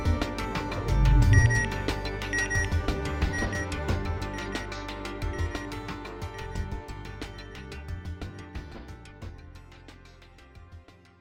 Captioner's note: music, satellite beeping; music, low rumble, wind chimes; satellite beeping